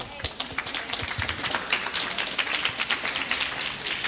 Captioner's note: clapping